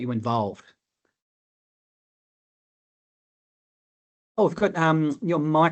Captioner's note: audio muted